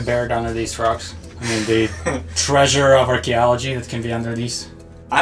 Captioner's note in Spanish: ríe